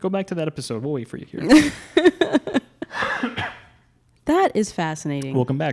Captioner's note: laughing